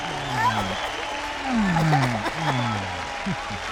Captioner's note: ਭੀੜ ਤਾੜੀਆਂ ਮਾਰਦੀ ਹੈ